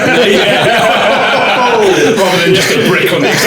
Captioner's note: laughing